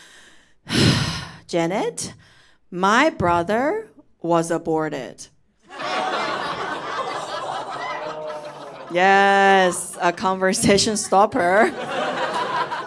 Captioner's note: sigh